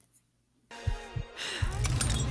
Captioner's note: heart beating; breathing